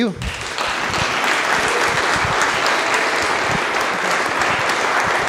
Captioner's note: audience applause